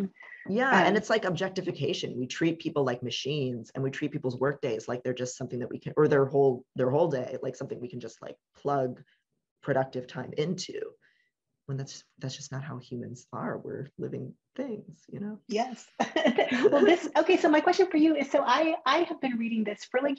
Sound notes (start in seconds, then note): 16.1 chuckles